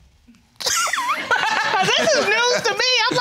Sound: all laughing

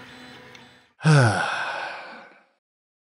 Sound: sigh

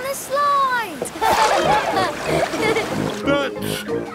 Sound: laughing

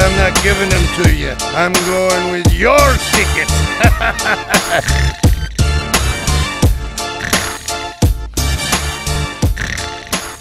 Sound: snore

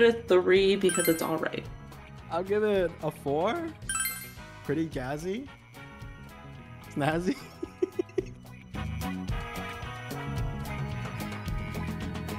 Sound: laugh

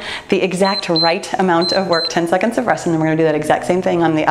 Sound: timer beeps

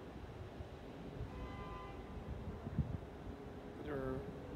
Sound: car horn beeps

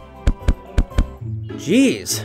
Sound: feet thudding

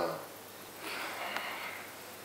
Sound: Ray exhales in frustration

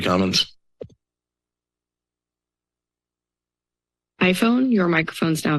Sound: silence

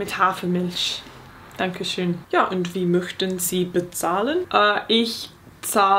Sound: speaking in foreign language

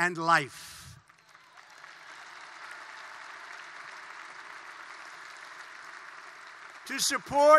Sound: applause

